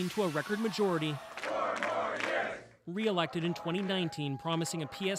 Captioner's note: cheers and Applause